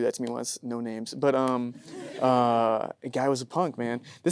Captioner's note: audience laughing